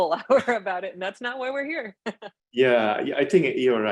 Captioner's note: laughs